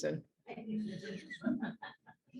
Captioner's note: the group laughs